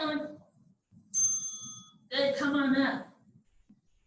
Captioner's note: ding